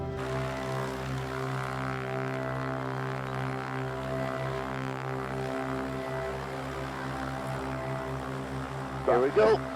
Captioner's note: airplane rumbles